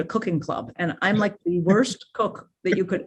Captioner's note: chuckles